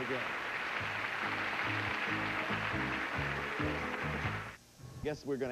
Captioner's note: audience applauding